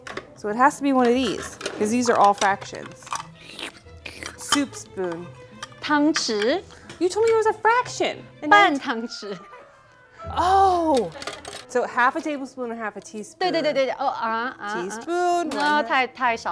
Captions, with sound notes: Okay. So it has to be one of these because these are all fractions. (imitating slurping) Soup spoon. (speaking in mandarin) You told me it was a fraction. (speaking in mandarin) Oh. So half a tablespoon and a half a teaspoon. (speaking in mandarin)